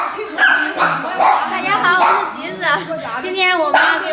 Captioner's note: Mandarin